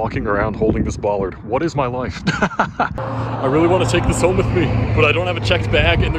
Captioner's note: laughs